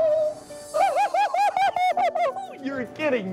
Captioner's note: high-pitched laugh